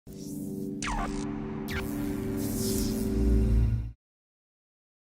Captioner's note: zapping; ethereal music